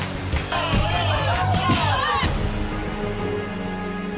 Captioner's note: people cheer; upbeat music